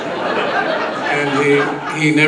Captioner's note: audience laughs